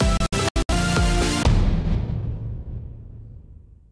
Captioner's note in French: Boum